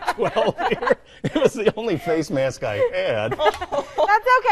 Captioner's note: both hosts laughing